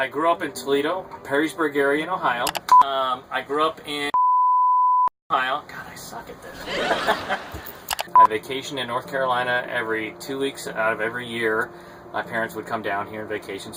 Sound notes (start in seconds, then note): 4.1 beep; 6.6 laughing; 6.6 people gasping